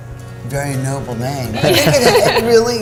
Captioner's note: laughing